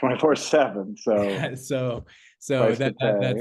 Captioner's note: chuckles